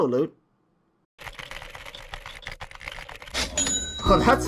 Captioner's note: rapid keyboard clicking; cash register ding